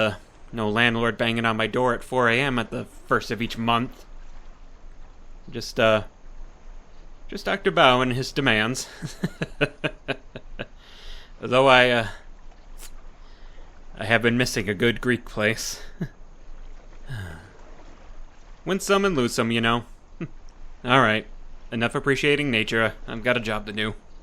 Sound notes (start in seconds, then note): 8.8 hearty chuckle